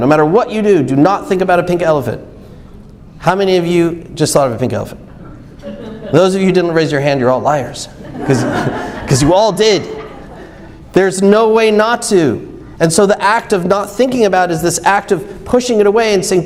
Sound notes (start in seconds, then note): 7.9 audience laughs